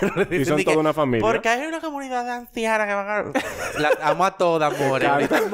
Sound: laughs

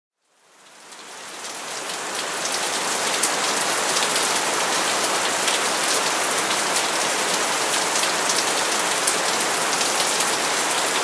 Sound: heavy rain

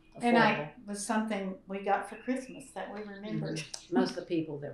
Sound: laughs

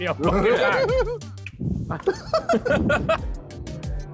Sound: all laughing

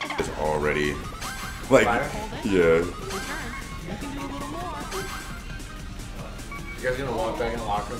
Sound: laugh

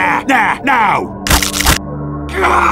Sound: sounds of bones breaking

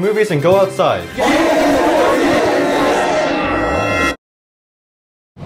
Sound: cheering

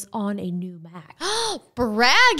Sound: gasps

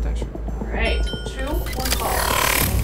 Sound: high pitched bell dings; futuristic sounds

